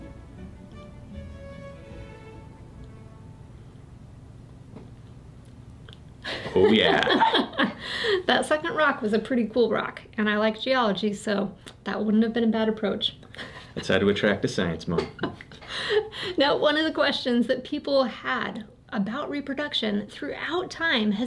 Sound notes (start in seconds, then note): 15.1 laughs